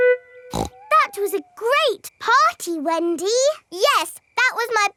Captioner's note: snorts